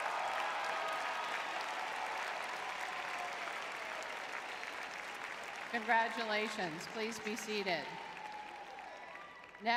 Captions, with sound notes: [cheering] [applause] Congratulations. Please be seated.